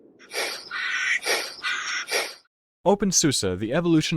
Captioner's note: chameleon hissing